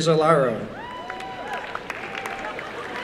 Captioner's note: applause